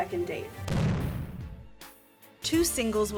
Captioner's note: explosion